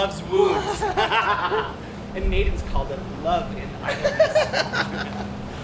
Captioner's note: laughs; Puck laughs